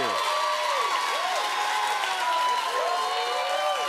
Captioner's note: cheers and applause continue